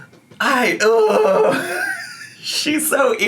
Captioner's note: groans